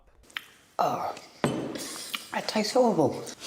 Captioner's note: man sighing